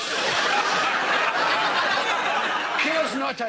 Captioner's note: laughter